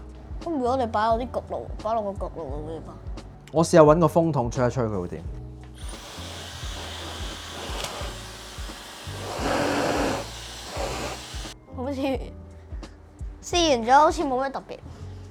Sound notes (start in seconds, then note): 5.8 blowing